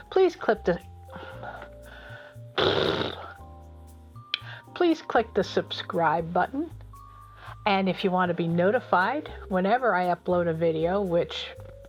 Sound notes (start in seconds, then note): 2.5 blows a raspberry